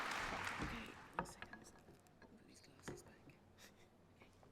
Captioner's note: applause